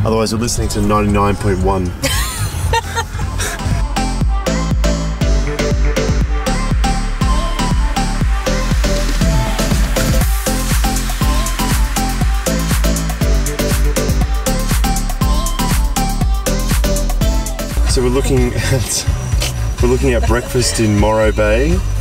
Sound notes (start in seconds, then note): 2.0 laughs; 4.5 lifting pop music